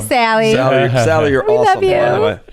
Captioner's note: chuckles